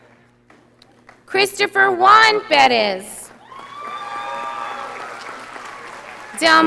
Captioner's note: audience applauding